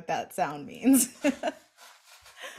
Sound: laughs

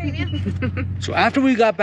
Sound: laughs

